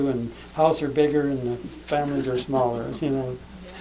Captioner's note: laughs